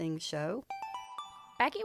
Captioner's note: chime